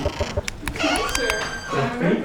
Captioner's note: door opens